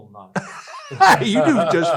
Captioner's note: both laugh